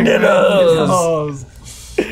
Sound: speaking foreign language

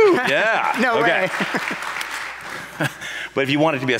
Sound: audience applauds

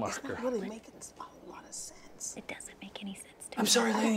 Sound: group whispering

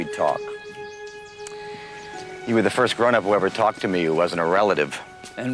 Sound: birds Chirping

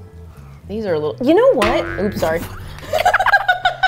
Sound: donut falls; both laugh

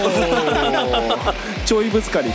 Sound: laughs

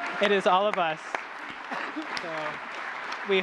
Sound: laughs; applause

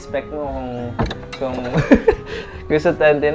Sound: laughs

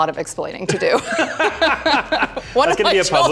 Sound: both laughing

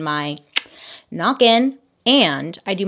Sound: tongue clicking

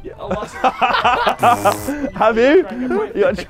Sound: men laughing

